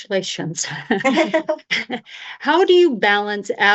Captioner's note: laughter